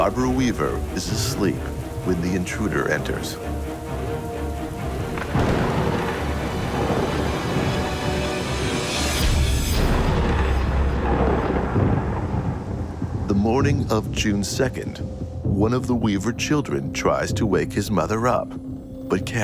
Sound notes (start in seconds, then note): 5.2 thunder crashing